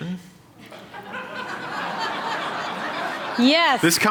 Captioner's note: laughter